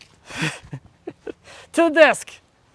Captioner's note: laughs